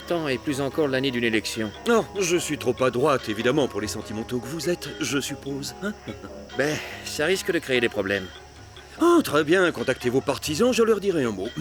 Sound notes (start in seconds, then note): 5.8 laughter